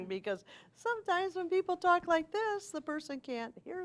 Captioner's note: higher voice